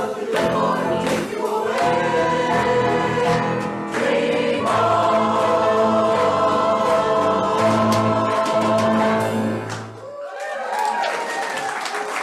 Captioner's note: applause